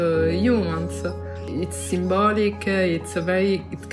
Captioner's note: birds chirping